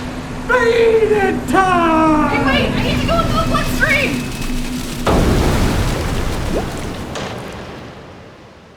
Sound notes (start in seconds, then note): 4.6 loud rushing chyme